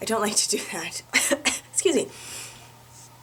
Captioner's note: coughs